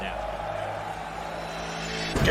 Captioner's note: crowd continues cheering